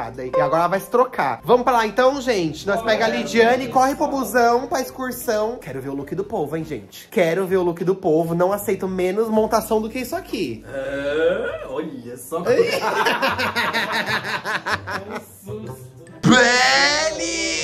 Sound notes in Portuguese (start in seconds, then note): 12.5 risos